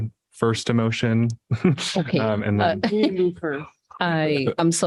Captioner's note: laughter